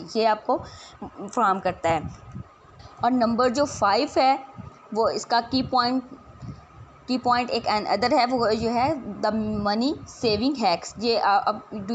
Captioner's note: voiceover